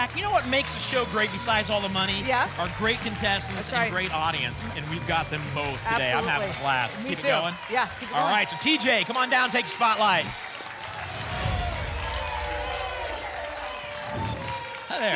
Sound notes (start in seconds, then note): 12.4 applause and cheering; 14.0 whoosh